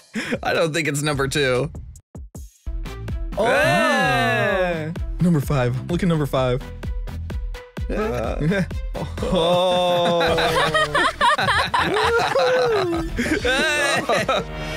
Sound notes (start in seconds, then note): 3.4 cheers; 9.1 laughs